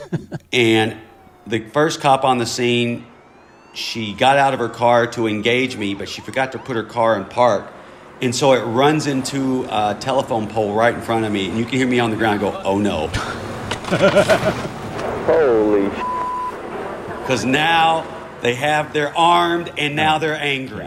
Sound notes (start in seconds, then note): 13.7 laughter; 15.2 soundbite of tv show, "jackass"